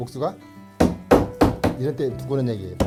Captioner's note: hammering sound